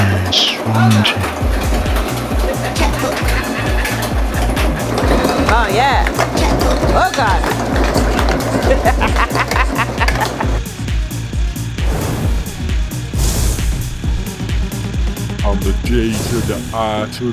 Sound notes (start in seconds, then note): 8.7 laughing